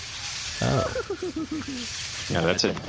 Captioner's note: giggling